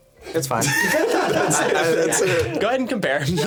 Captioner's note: laughing